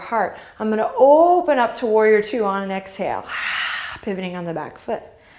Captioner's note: inhale; exhale